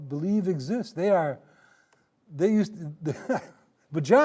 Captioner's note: laughing